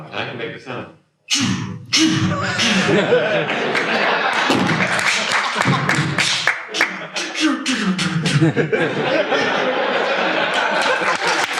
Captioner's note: applause